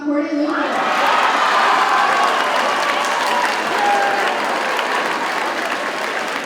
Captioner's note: audience cheers and applauds